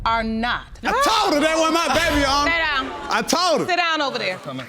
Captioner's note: shouts